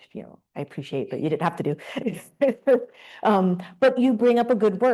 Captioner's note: laughs